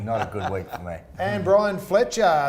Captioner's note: laughing